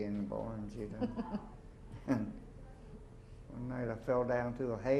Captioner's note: chuckles